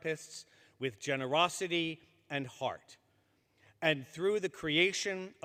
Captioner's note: none